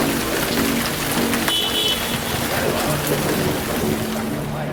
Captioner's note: car horn